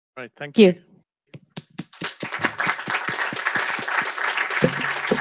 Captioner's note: applause